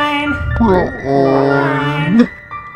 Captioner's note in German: verlangsamt mit tiefer Stimme